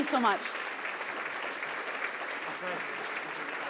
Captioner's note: applause